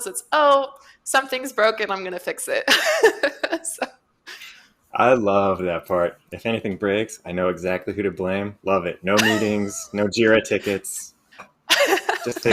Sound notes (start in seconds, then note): 2.8 laughs